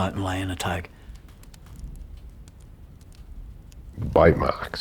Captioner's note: fire crackling